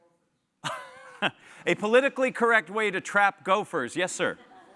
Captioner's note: laugh